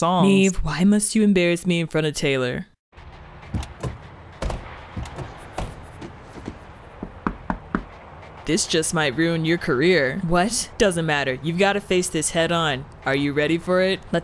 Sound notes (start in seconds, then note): 3.5 door opens; 4.4 door closes; 6.9 knocks